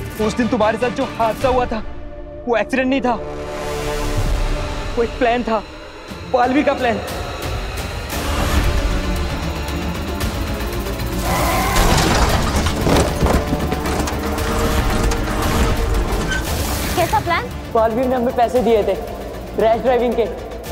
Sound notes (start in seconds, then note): 7.2 tense music plays; 11.1 tyres screeching